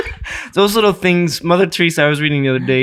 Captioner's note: chuckling